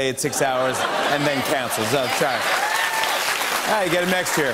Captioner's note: laughter